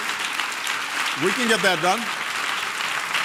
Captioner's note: applause